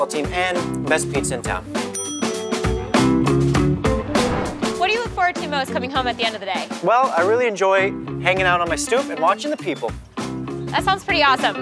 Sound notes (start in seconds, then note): 1.6 upbeat music; 1.9 bell dings